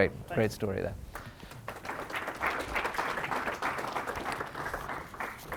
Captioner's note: applause